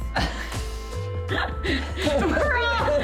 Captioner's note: laughing